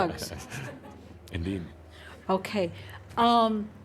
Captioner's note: chuckling